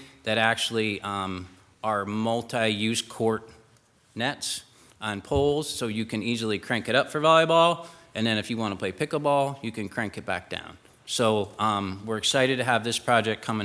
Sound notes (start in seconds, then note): none